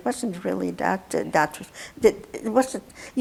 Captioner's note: mumbling